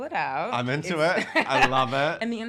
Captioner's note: laughing